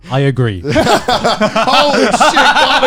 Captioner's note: all laughing